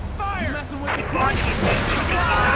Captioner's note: sirens wailing